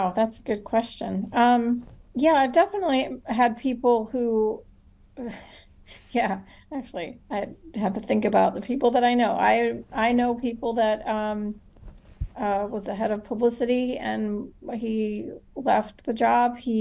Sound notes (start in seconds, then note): 5.8 chuckle